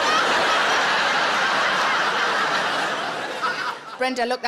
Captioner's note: audience laughs